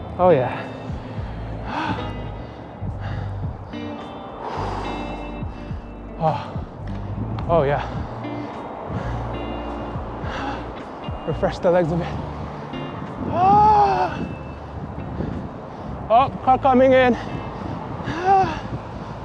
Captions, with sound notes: Oh yeah. (Breathing heavily) Oh, oh yeah. Refresh the legs a bit. Ahh. Oh, car coming in. Ahh.